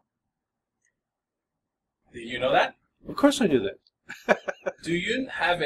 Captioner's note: laughs